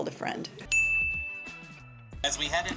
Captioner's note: bell dinging